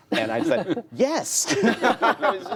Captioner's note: laughter